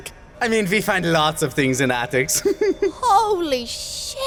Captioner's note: giggles